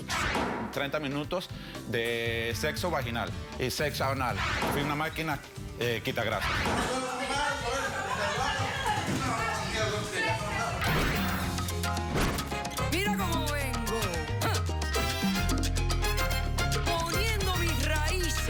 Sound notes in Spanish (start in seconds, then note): 6.3 griterío